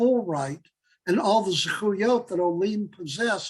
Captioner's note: Hebrew